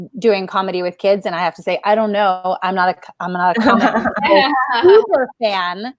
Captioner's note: murmurs